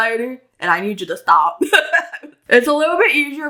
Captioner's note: laugh